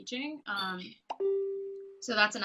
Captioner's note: ding